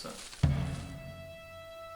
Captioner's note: bushes rustling